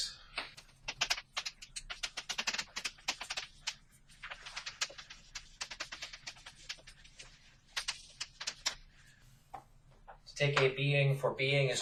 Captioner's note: writing on chalkboard sounds